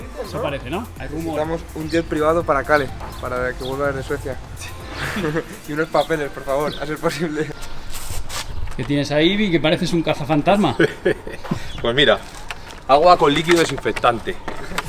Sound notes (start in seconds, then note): 10.6 laughter